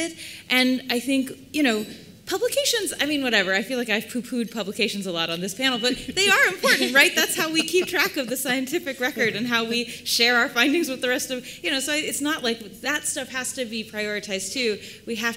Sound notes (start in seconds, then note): 6.0 laughter